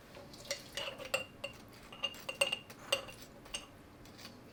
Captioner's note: spoon clattering